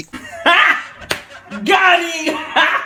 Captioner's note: knee slap